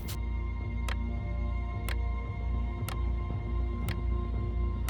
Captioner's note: clock ticking